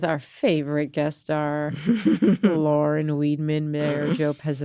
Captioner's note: chuckle